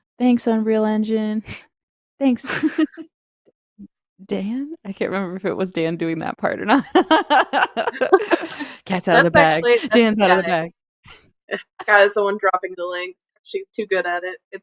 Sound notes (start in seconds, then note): 6.9 laughs